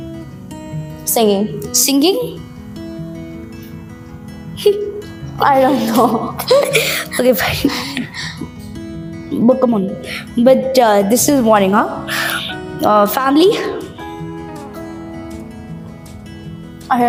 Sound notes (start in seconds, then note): 5.7 laughs